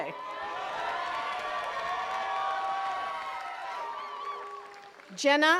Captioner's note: attendees cheering and clapping